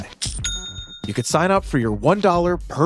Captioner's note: money cha chings